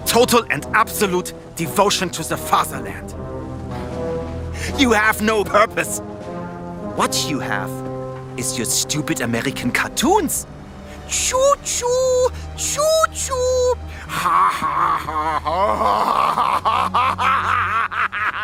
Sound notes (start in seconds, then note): 11.1 mocking; 14.0 deranged laughter